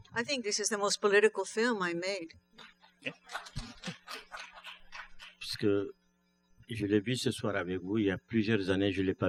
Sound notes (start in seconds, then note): 3.1 laughter; 6.7 speaking french